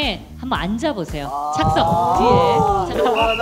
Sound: heart beating

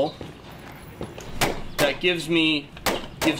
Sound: gun firing

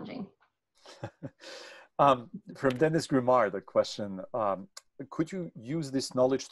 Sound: chuckling

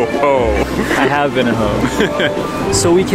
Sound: laughs

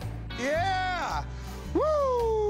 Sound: excitedly

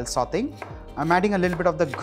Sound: chopping sound

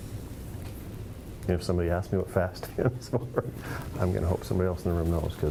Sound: laughing

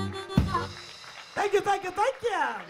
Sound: audience claps

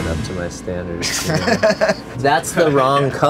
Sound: laughing

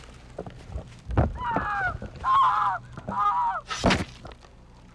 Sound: Amy screaming; muffled thumping

